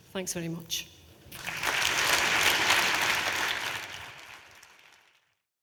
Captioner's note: audience applauding